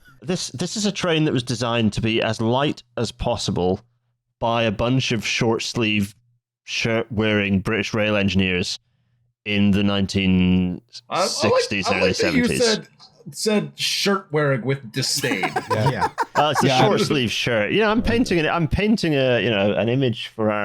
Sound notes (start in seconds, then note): 15.1 laughter